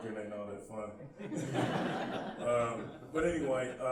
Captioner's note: laughing